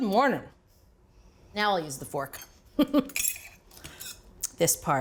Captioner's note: laughs